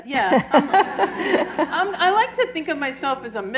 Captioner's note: laughter